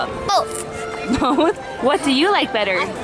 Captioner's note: laughs